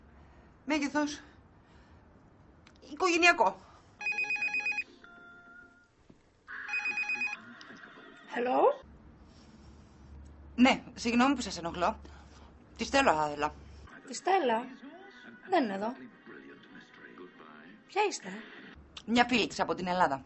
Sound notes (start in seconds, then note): 4.0 phone ringing